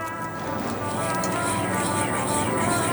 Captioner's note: calming horn music; stirring